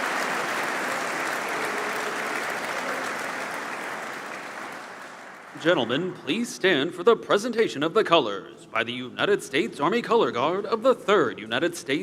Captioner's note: applause